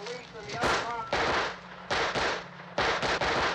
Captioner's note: gun firing